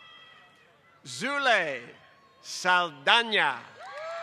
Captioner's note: applause